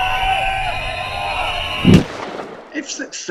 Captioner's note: explosion